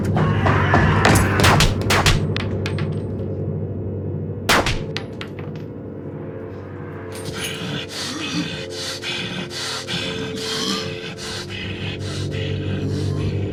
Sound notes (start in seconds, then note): 0.1 person screaming; 0.3 shots firing; 7.2 Devin growling